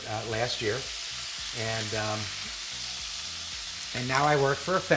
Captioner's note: pan sizzling